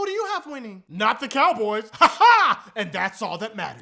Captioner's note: weird laughing